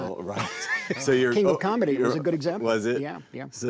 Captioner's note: laughing